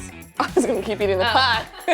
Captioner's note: chuckles; laugh